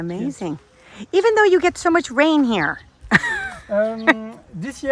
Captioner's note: laughing